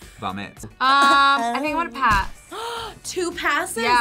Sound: gasps

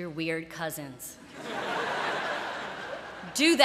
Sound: laughter

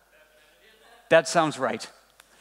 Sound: murmuring

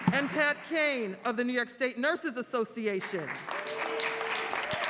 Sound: applause

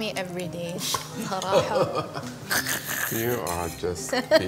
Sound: laughing

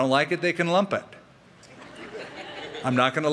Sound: laughter

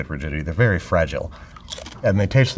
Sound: chip crunches

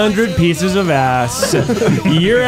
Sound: laughing

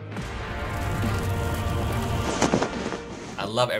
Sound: dramatic instrumental music; fire cracking; fabric whooshing

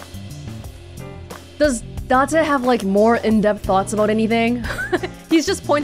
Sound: chuckles

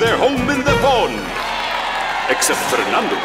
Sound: cheering

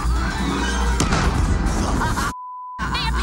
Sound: bomb explodes; beep

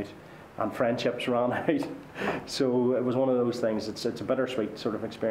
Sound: laughter

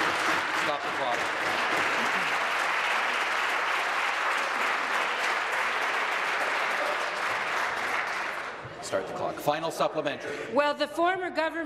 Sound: applause

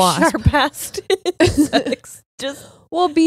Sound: both laughing

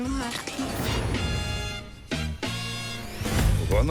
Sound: The Bishop whistling

